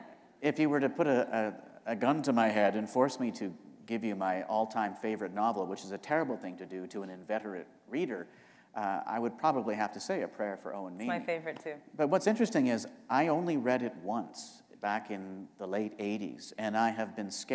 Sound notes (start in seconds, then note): none